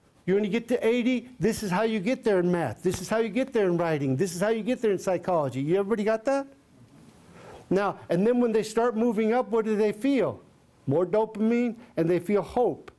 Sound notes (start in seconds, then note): none